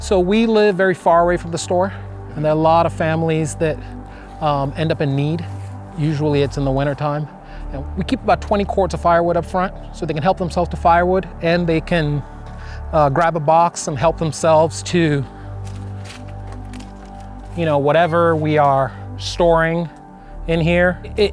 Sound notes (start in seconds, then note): none